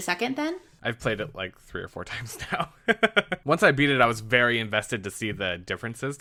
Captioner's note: laughs